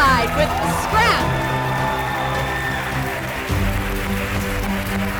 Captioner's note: crowd cheering